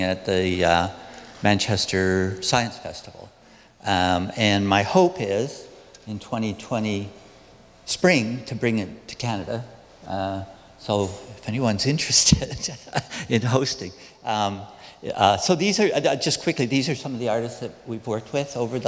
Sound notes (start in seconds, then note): 12.3 laughs